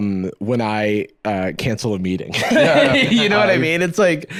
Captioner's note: laughs